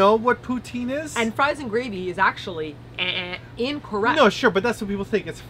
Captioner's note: buzzer noise